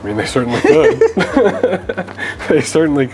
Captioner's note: laughing